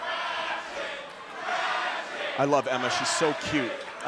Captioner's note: crowd cheering